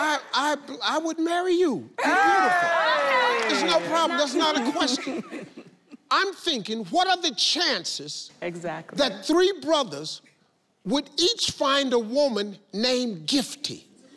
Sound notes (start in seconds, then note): 2.0 cheering